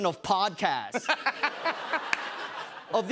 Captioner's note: laughter